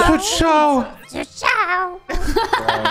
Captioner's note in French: voix de Toad